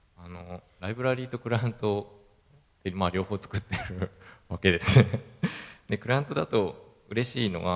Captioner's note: laugh